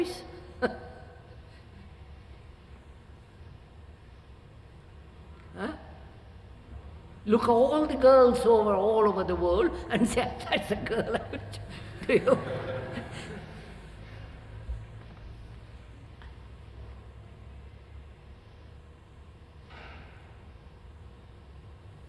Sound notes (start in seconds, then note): 4.4 laughs; 13.4 laughter